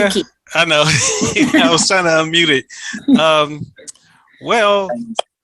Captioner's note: chuckling